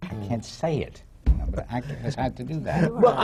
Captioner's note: laughter